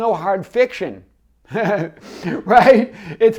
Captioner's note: laughs